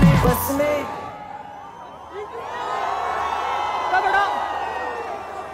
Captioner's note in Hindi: चियरिंग